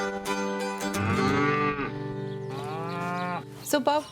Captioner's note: cows mooing